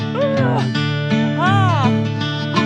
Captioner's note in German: grunzt